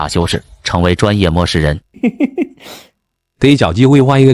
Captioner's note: chuckles